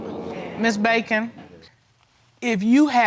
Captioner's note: courtroom gasps